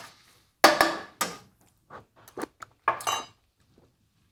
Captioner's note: pan clanking